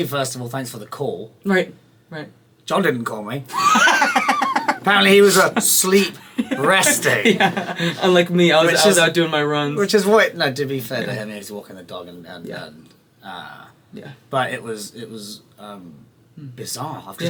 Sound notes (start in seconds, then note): 3.5 laughing